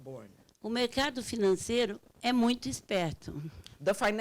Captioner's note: speaking Portuguese